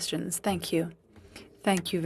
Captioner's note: speaking French